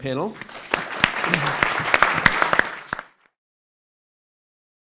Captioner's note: audience clapping